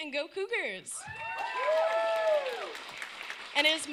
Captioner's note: cheering